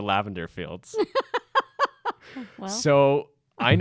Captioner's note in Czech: Smích